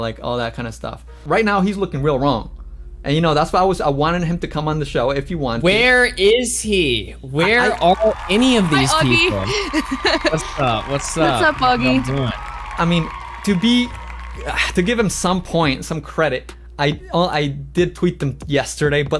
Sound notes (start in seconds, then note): 7.4 laughs